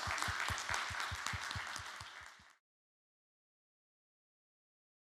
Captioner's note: audience clapping